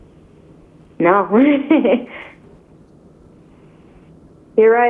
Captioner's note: laughs